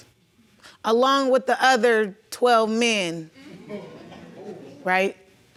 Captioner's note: audience exclaiming